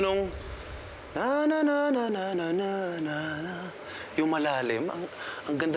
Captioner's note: vocalizing in a low pitch